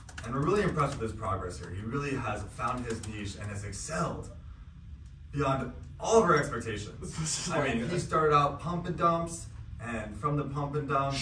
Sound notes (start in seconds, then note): 7.1 laughing